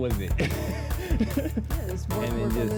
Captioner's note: laughs